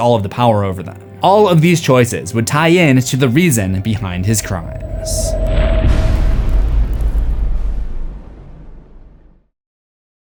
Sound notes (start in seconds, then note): 4.0 impact